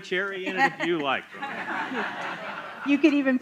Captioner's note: laughter